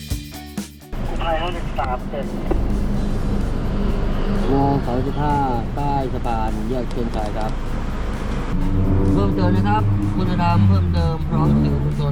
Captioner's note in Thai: เสียงเรียกวิทยุ